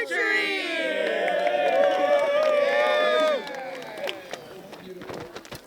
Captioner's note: cheering